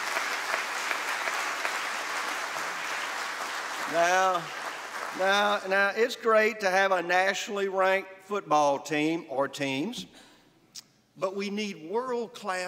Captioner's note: applause